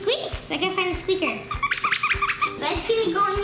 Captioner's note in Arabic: الصرير